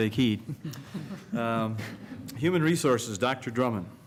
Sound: laughter

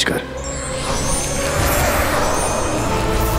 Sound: sparkling

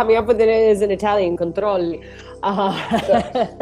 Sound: speaks Italian; client laughing

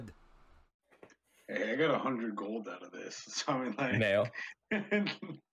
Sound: chuckling

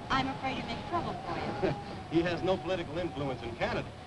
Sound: Allen chuckles

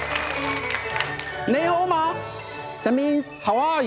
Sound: in foreign language

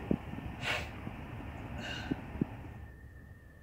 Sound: soft sniffle

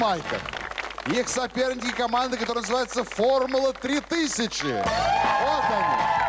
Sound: applause

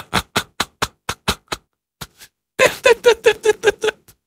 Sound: wheeze

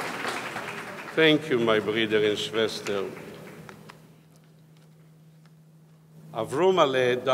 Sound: speaking in foreign language

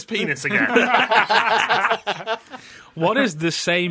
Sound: laughter

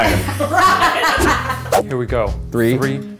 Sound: laughing

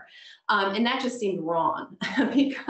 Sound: laughs

